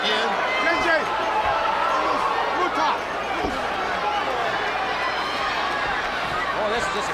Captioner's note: crowd chatter